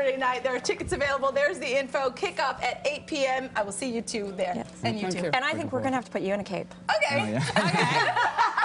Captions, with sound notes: [ SPANISH BEING SPOKEN ] SO WHETHER YOU GO TO THE MATCH OR YOU LISTEN TO IT IN ENGLISH OR SPANISH BECAUSE CLEARLY THAT'S ANOTHER SHOW TO GO [LAUGHTER]